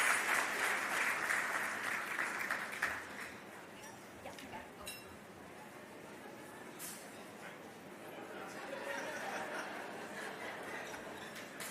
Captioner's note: applause; applause